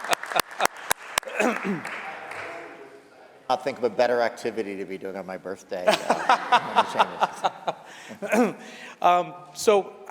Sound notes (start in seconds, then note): 2.2 applause